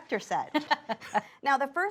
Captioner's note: laughs